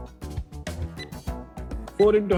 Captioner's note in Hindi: घड़ी की आवाज़ आते हुए